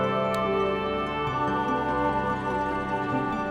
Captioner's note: light switch clicks; gentle music continues